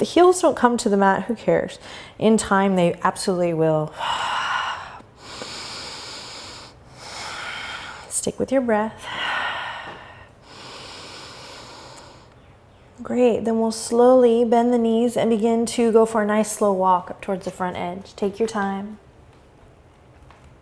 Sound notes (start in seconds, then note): 4.0 breathing